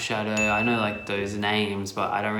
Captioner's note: dinging